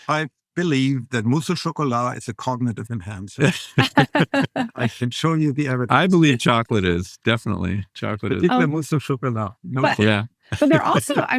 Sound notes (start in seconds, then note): 3.3 laughing